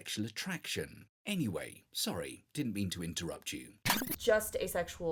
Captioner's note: tape rewinding